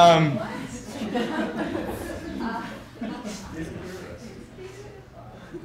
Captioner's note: laughter